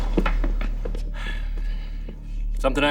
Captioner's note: sighs